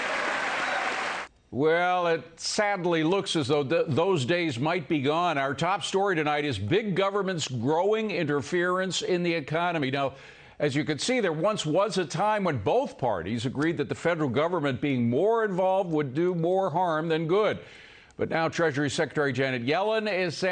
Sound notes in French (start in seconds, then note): 1.8 cheers and applause